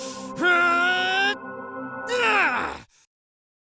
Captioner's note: battle cry